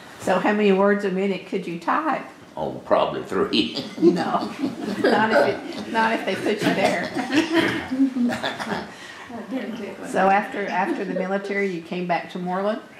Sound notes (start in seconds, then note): 3.6 laughs; 7.6 laughter